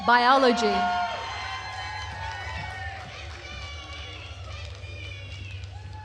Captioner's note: attendees cheering and applauding